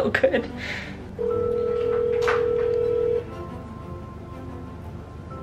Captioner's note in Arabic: رنين الهاتف